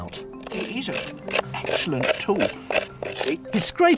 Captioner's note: tool scraping